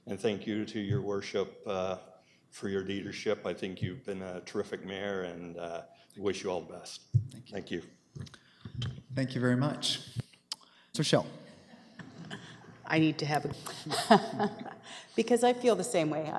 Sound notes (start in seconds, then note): 13.6 laughter; 13.7 laughs